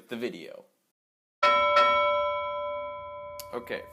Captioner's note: ding ding